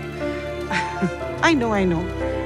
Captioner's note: Premlata laughs